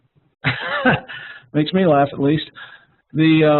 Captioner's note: laughs